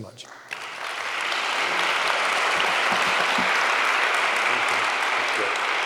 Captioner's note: audience applauding